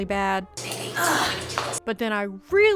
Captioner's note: pain noises